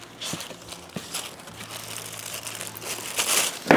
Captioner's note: paper rustling